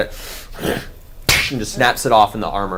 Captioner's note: grunts